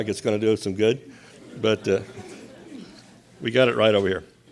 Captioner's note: audience laughs